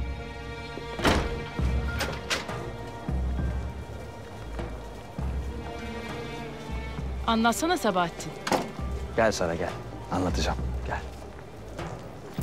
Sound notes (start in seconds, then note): 0.9 door open sound; 1.0 the door closing sound; 8.4 the door closing sound